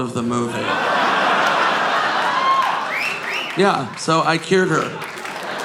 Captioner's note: audience laughing